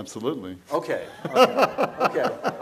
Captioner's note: laughs